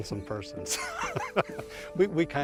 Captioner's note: laughs